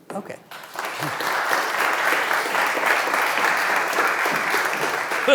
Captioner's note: audience applauding